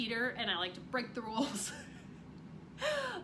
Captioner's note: chuckles